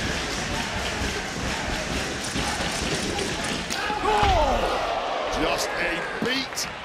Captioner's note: crowd chanting